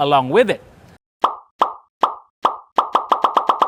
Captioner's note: popping sounds; rapid popping sounds